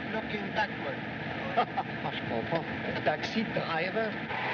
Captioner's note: chuckles, Speaks French